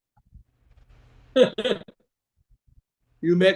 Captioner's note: laughs